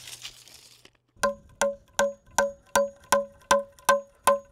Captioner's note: hammer clanging